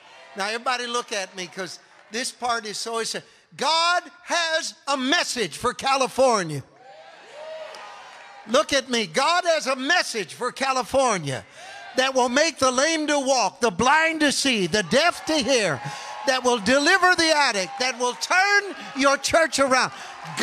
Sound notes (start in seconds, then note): 6.7 congregation cheering